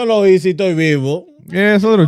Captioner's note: speaking In Foreign Language